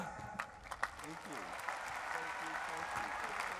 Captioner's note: applause